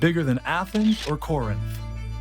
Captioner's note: camera flashing; lively music